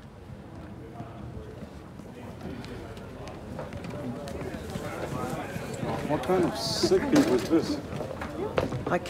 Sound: indistinct chatter

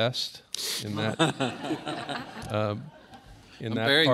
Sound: laughter

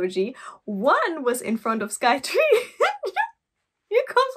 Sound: laugh

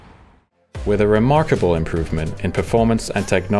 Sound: voice-over

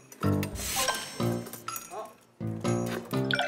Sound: spin

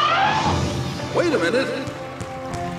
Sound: elephant horn

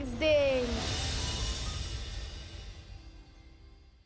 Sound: magical twinkling

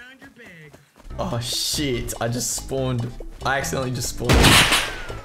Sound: gunshot

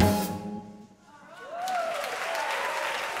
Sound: applause

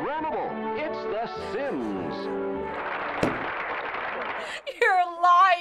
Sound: voice-over; applause

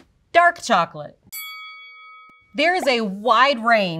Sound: bell dings

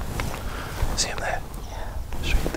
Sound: whispers

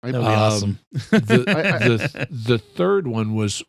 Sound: laughter

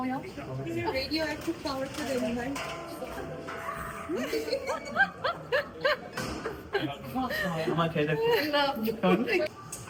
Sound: loud laughter

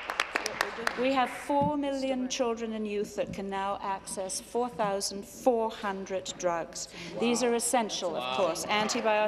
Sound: applause

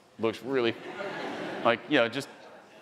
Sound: attendees laughing

